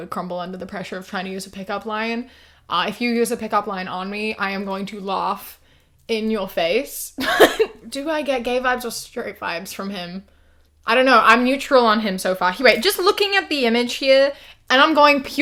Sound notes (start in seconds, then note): 6.6 laughs